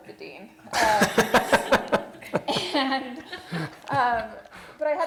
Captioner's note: laughter